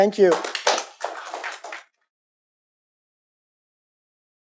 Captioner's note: applause